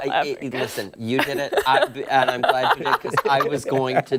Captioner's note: laughter